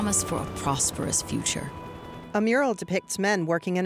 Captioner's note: helicopter whirring